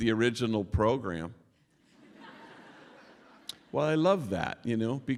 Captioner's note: laughter